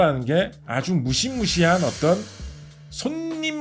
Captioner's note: sharp sound effect